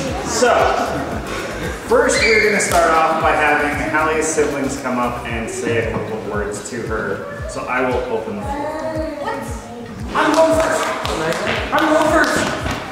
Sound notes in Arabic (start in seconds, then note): 10.1 الضيوف يصفقون